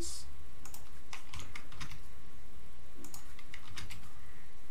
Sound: keyboard clicking

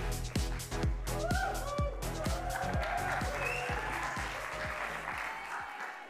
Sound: upbeat music; audience cheering and applauding

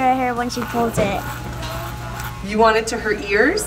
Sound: clippers buzz

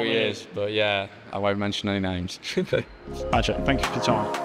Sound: chuckles

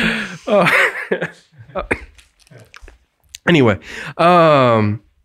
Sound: laughing

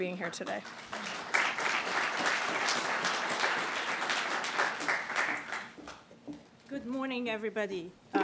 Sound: applause

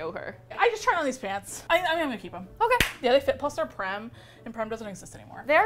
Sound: claps

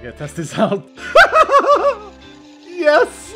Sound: laughs; distant ghast noises

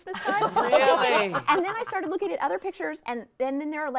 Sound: all laughing

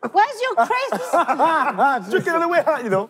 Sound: contestants laughing

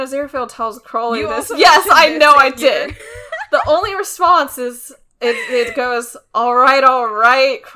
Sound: laughs

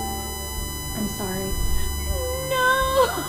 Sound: woman sobbing

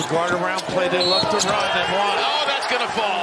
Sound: whistle

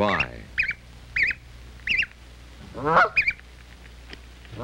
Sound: goose honking

